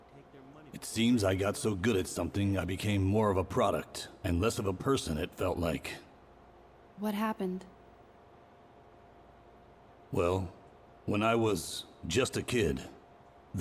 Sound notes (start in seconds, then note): none